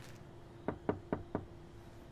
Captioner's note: knocking